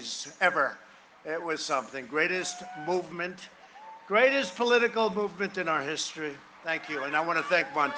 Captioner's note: cheering and applause